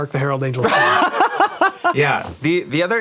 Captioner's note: laughs loudly